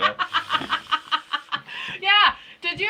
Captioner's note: laughing